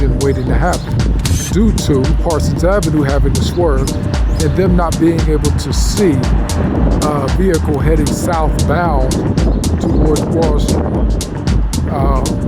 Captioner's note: traffic